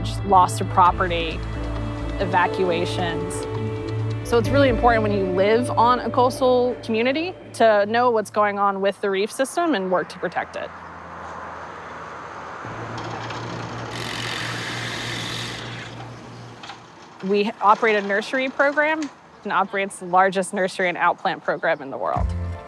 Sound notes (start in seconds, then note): 12.9 drill screeching